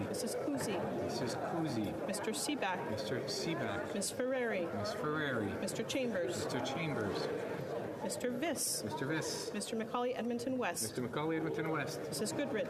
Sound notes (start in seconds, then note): 0.0 calling of recorded vote